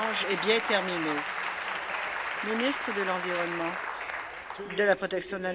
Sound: applause

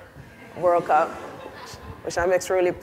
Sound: audience laughs

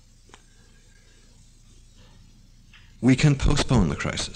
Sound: pause

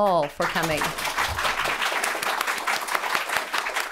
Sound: applause

